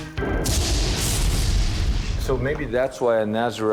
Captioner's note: heavy crashing